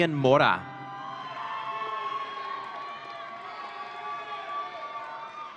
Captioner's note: audience cheering